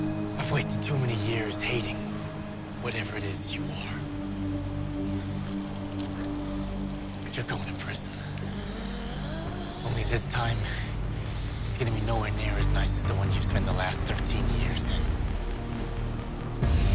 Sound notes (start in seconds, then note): 9.1 groaning